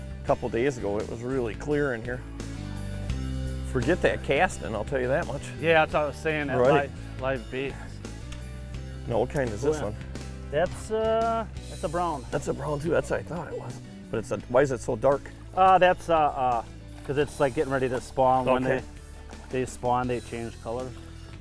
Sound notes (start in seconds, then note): 5.7 voiceover